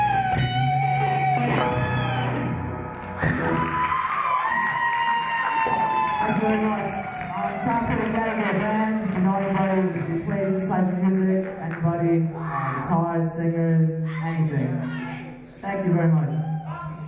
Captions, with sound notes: (audience cheer) - Thank you very much. I'm trying to put together a band, if you know anybody who plays this type of music, anybody, guitarist, singers, anything. Thank you very much.